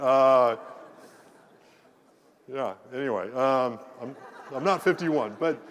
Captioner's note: laugh